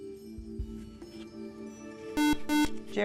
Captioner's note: buzzer